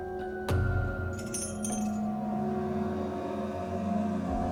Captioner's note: chains clinking